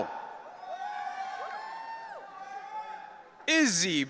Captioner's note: audience cheering